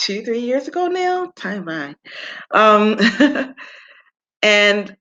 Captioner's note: chuckles